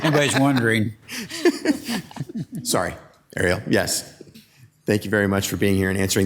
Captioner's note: laughs; council members laughing